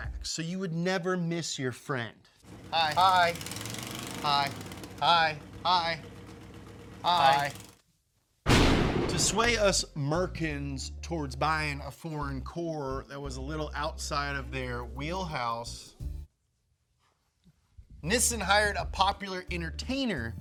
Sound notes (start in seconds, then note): 8.4 lightening striking